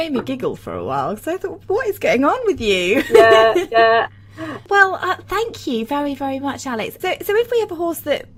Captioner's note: laughs